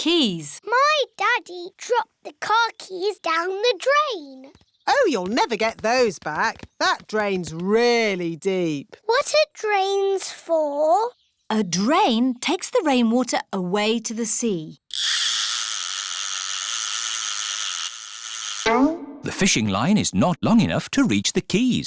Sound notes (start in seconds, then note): none